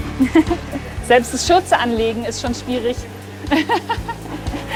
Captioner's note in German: lachend